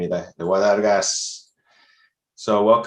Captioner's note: speaking in foreign language